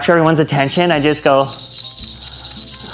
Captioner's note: bell rings